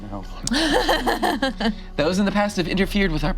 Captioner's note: laughs